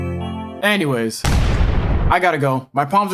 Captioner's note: boom